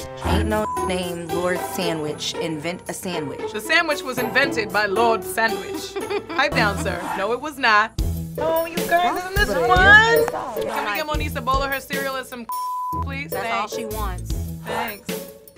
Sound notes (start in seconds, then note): 3.4 British accent; 5.9 normal voice